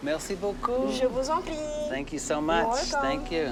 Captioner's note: speaking French